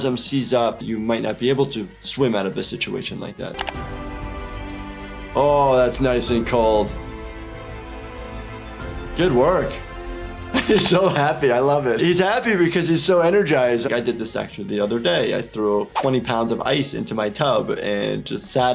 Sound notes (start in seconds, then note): 3.3 triumphant music; 3.5 computer mouse clicking